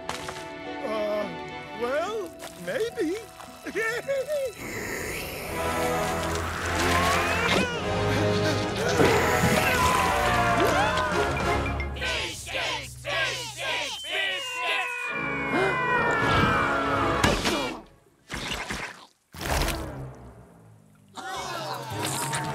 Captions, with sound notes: Uh, well, maybe. [giggles] [air whooshing] Whoa! [Bomb and Brenda yell] Fish sticks! Fish sticks! Fish sticks! -[Bomb and Brenda yelling] -[all gasp] [both grunt] [campers groaning]